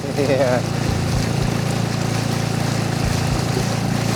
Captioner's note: chuckling